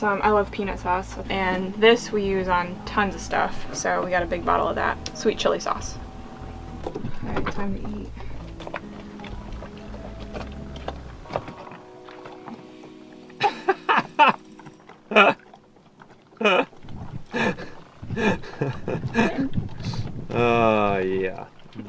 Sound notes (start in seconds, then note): 13.6 laughing